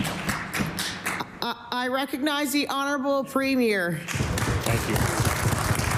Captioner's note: applause